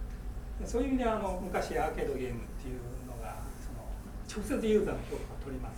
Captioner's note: speaking in foreign language